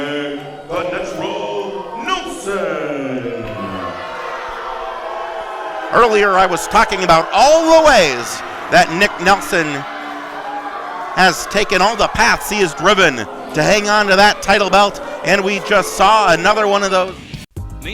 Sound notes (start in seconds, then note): 3.5 audience booing